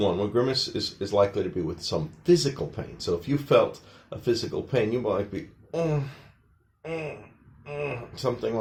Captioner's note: grimacing noises